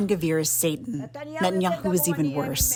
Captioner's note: through translator